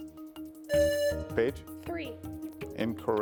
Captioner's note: buzzer buzzing